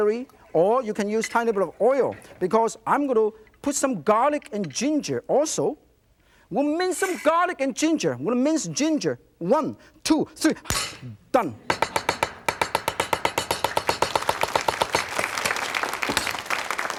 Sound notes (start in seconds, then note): 11.7 knife chopping; 13.0 audience clapping